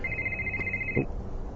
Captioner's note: phone ringing